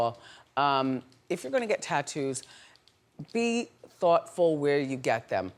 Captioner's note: none